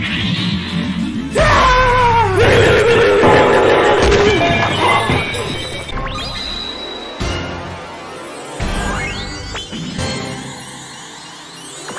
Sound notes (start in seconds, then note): 3.0 tumbling over comically large amounts of tables noises; 4.9 furry death noise